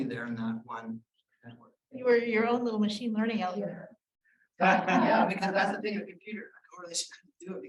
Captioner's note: laughter